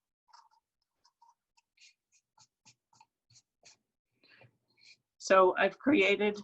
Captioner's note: knife carving; hand brushing